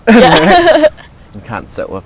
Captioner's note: laughing